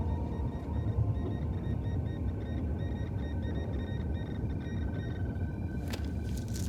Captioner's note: alarm